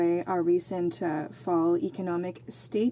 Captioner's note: speaking in French